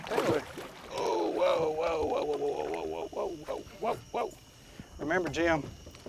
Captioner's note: grunt